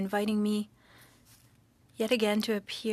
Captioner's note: speaking French